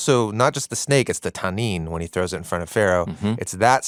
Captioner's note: speaks in Hebrew